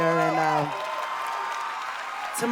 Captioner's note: cheers and applause